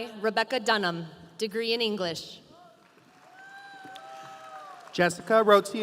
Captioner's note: audience applauding